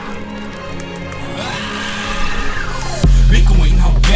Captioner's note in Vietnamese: tiếng hét